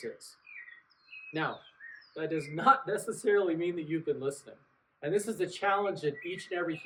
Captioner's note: laughs